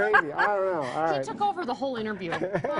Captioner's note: all laughing